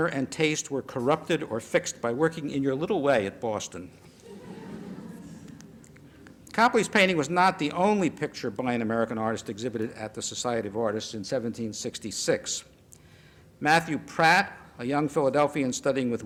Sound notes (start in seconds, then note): 4.0 laughter